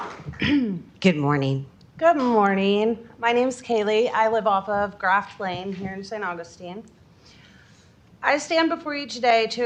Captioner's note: applause